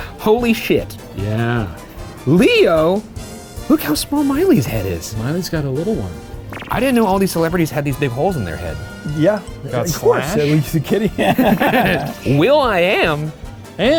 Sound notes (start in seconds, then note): 9.9 all laughing